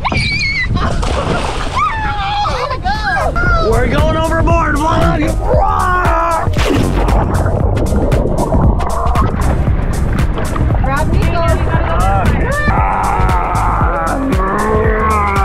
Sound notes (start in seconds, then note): 0.0 screams; 0.2 water splashing; 5.4 screams; 13.4 grunts